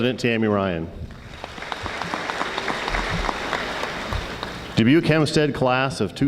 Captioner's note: audience applauding